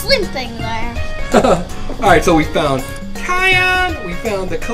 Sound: laughs

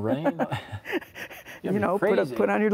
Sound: both laugh

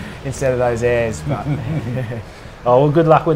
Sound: chuckles

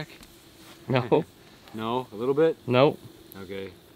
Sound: laughs

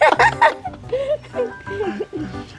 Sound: both laughing

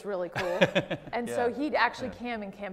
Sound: laughs

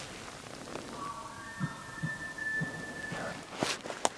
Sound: closer elk bugling

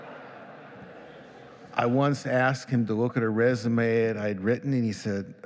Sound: laughing

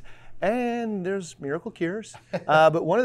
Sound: laughing

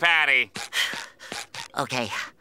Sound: sighs

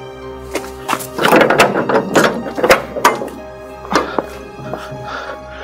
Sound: door open

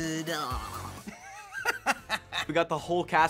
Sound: laughing

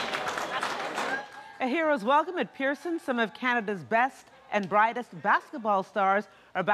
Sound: cheering and Applause

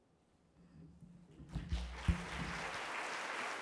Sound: applause

